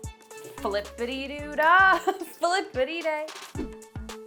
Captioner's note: laughing; upbeat music